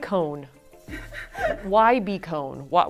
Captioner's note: laughing